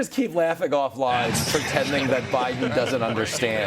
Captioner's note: laughter